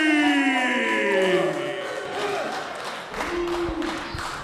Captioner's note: crowd cheering